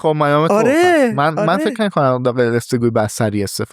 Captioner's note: laughs